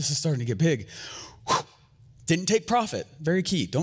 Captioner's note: fast exhale